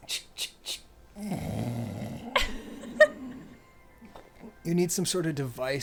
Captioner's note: mimics bong gurgling